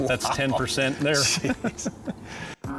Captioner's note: laughing